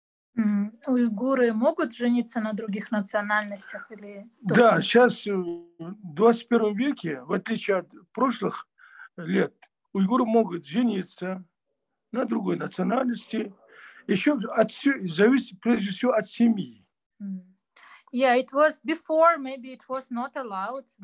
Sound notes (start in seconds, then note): 1.2 asking question in Russian to father; 9.1 in Russian